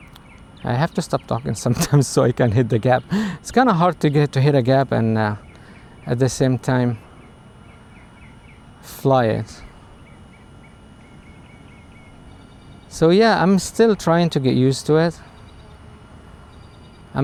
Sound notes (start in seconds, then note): 11.7 talking